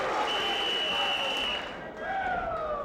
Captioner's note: whistle blowing